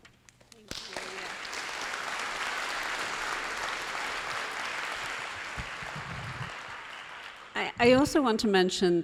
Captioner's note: applause